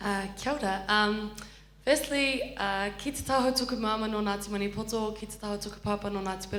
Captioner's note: foreign language